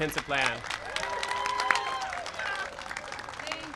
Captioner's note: applause and cheering